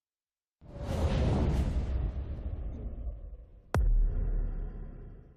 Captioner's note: slide whooshes